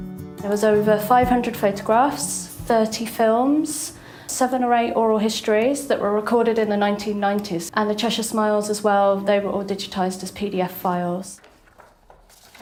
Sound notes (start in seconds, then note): none